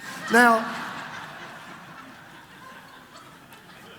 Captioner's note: congregation laughs